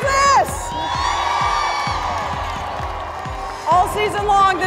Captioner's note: cheering